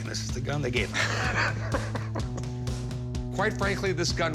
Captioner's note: laughs